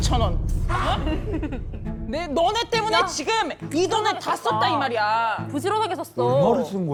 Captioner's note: sound of being extremely shocked